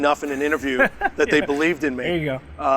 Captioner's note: laughs